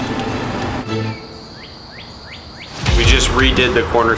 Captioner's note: birds chirp